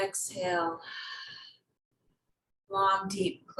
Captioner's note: exhales